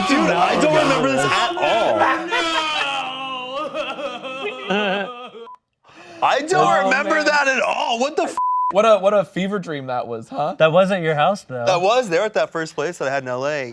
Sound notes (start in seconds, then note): 4.6 laughing; 8.4 beep